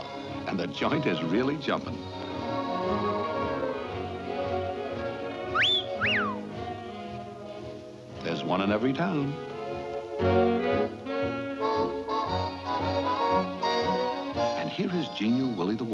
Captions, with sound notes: And the joint is really jumping. (bird whistles) There's one in every town. (bright jazzy music) And here is junior Willie the Warbler,